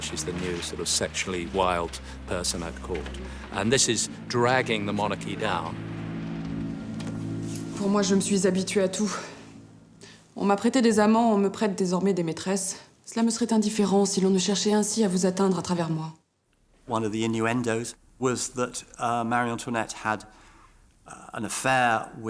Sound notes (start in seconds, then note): 6.0 tense music; 7.8 Marie Antoinette speaking in French